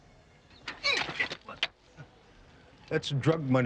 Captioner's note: wheel squeaking